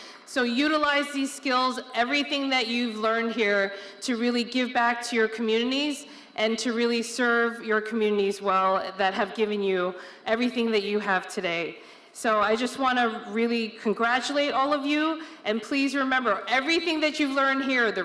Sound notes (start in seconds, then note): none